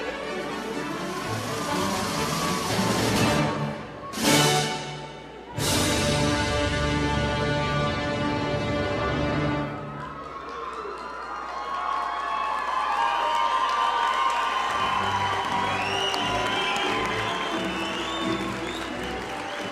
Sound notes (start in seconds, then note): 11.8 audience cheer and applaud